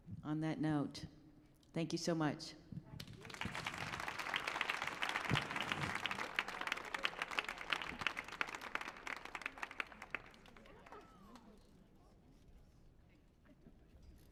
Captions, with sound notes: - On that note, thank you so much. (applauding)